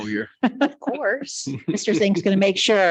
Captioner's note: people chuckle